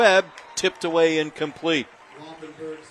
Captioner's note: applause